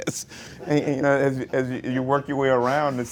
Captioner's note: laughs